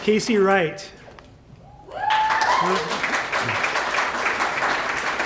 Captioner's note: applause